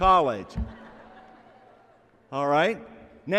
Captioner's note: laughter